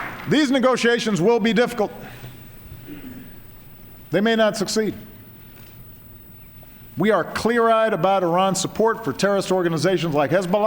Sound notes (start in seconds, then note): 0.0 applause